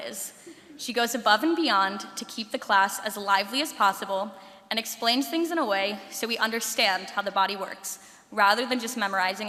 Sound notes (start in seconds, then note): 0.9 laughter